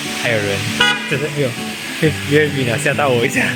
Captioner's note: car Honking